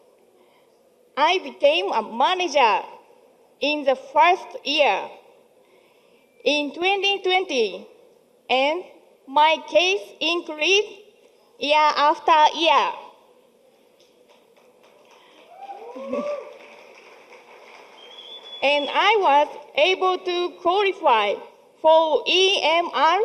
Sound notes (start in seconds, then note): 15.0 crowd cheering